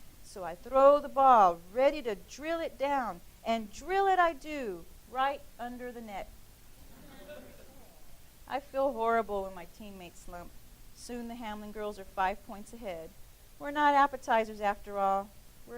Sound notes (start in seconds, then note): 6.9 laughing